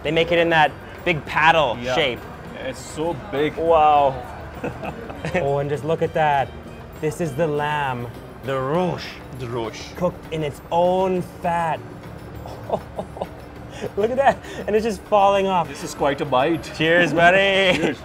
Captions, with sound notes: - They make it in that big paddle shape. - It's so big. - Wow! Oh, and just look at that. This is the lamb, the rosh! - The rosh. - Cooked in its own fat. (laughing) Look at that. And it's just falling off. - This is quite a bite. - Cheers, buddy.